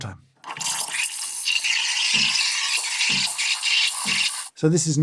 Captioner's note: steam wand noises